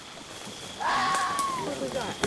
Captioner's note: animal screech